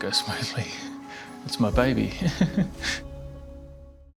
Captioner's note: chuckles